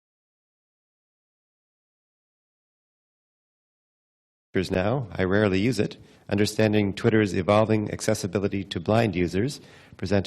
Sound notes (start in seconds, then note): 4.8 voiceover